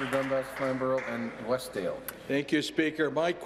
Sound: applause

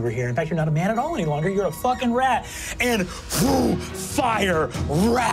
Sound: mimics wind rushing

